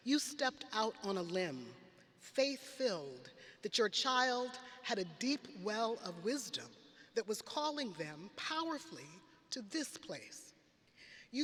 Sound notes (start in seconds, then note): none